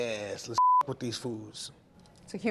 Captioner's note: beep